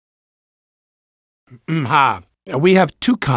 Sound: clears throat

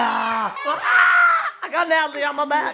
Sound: screams

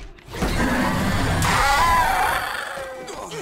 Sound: screeching

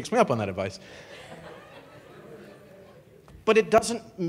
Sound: audience laughing

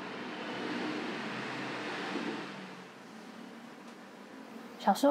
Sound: vehicles passing in the distance

